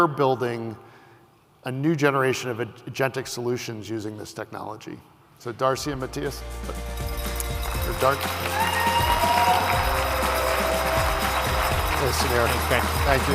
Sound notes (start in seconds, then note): 5.8 upbeat music; 7.2 applause